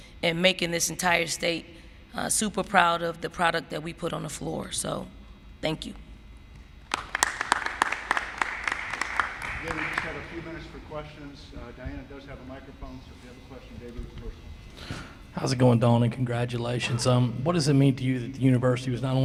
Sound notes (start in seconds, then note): 6.8 applause